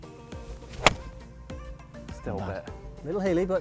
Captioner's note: golf ball hits